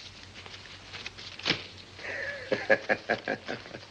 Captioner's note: cash rustles; chuckling